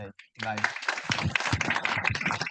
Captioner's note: audience applauds